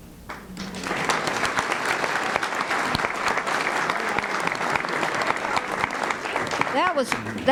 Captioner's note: applause